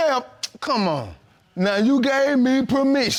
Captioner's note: clicks tongue